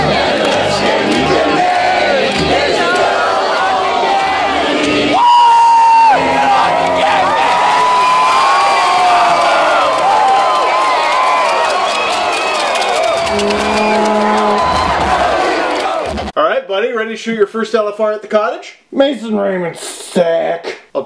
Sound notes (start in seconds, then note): 6.3 crowd cheering